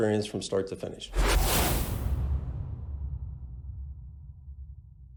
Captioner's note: whooshing sound